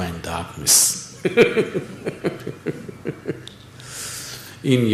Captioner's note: laughs